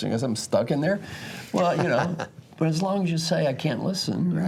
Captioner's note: laugh